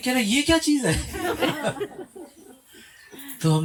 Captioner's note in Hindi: हंसी